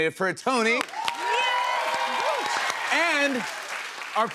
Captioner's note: cheers and applause